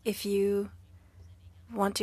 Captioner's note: speaking French